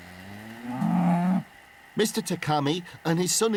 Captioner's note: mooing